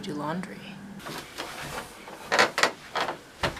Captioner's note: weird basement noises, creaky stairs